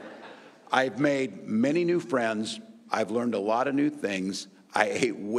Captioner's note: laughter